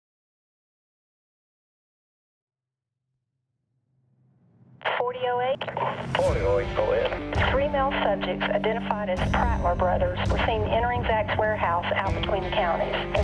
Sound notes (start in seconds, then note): 5.2 dispatcher over radio; 6.6 SHERIFF THORNE</i> <i> OVER RADIO